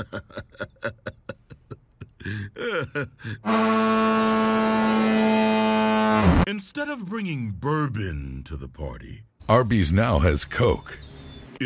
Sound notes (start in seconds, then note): 0.0 man chuckling; 3.4 foghorn